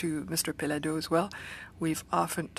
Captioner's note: speaking French